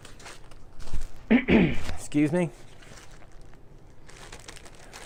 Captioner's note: clears throat